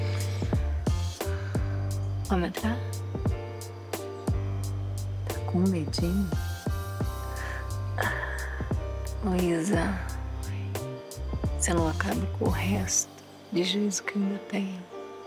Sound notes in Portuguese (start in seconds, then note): 8.0 risos